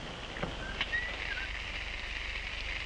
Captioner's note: sound of water running as shower is turned on